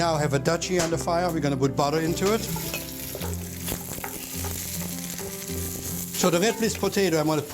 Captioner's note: sizzling